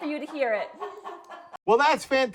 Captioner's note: chicken clucking